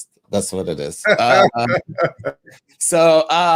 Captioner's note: laughing